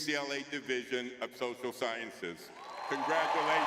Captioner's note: audience cheering